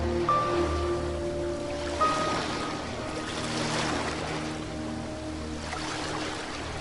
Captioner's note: water splashing